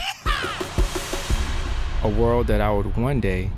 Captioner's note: laughs; male Voice